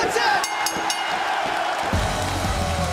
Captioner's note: bell ringing; crowd cheering